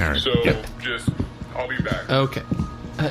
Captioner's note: a klaxon begins blaring outside